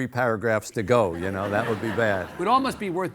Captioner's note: audience laughing